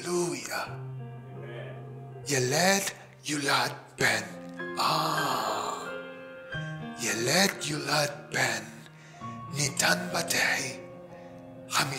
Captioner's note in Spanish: Leyendo Isaías en Hebreo